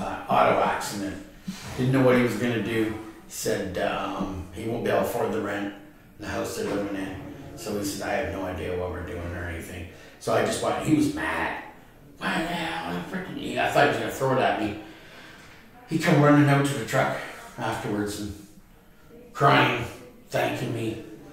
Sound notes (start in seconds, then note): 11.8 grumbles